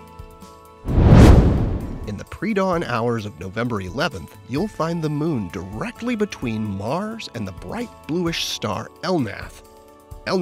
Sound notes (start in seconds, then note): 0.8 air whooshing